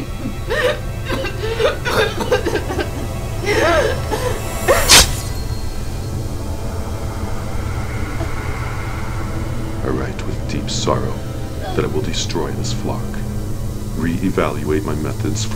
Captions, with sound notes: (coughing) (blade slicing) I write with deep sorrow that I will destroy this flock, reevaluate my methods for studying